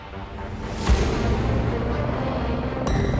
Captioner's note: whoosh